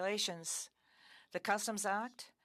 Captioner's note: speaking French